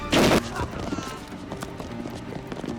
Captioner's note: gunfire clattering; tense music; gangsters screaming